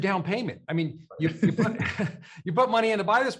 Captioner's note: chuckles